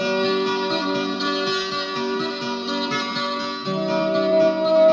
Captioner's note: none